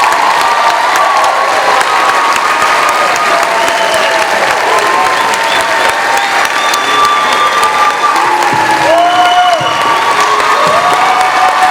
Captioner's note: cheering